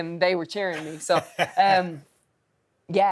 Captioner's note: laugh